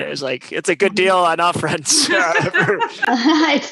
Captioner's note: laugh